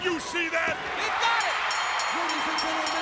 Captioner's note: bell ringing